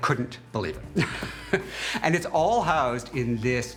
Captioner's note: laughs